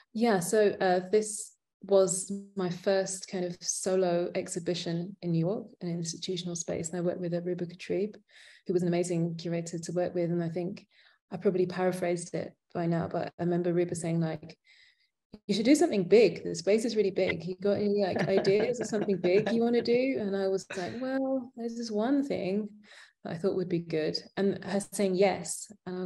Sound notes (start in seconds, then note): 16.7 laughing